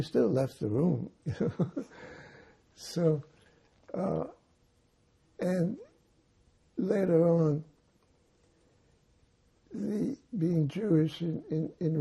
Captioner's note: laughing